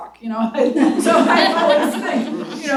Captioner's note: laughter